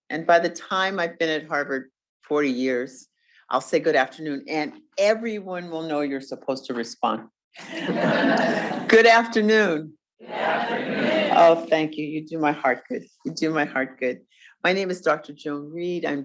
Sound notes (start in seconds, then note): 7.6 audience laughs